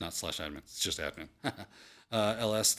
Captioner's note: chuckles